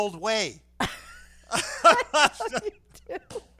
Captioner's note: laughing